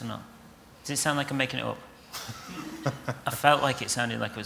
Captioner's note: laughter